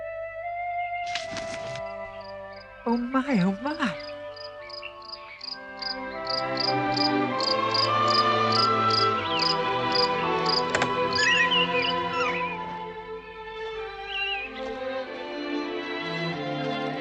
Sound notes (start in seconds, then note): 4.3 chirping